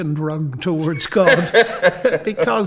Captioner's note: both laughing